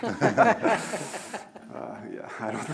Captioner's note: laughing